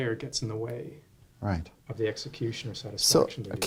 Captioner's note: voiceover